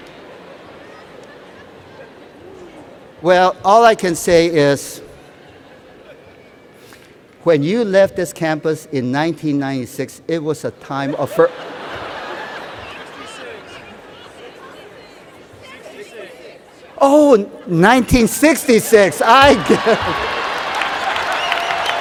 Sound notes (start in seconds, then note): 11.0 laughter